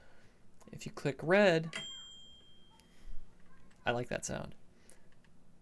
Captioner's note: ding!